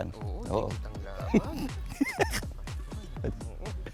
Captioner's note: laughs